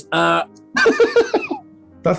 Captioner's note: laughing